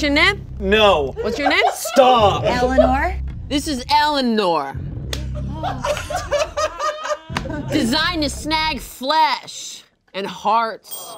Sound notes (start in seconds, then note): 5.3 everyone laughing